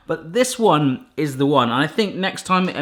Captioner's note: none